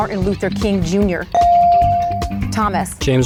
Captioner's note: bell dings